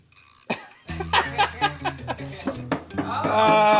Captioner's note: laughing